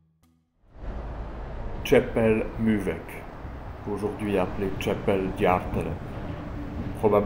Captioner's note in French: Voix off